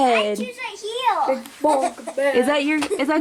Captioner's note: murmuring